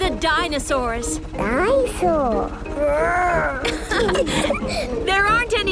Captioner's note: laughing